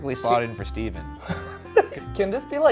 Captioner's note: laughs